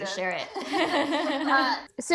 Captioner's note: laughter